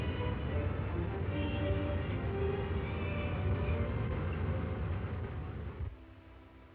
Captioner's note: flames roaring; suspenseful music; gentle music